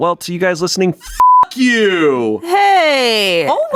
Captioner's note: beep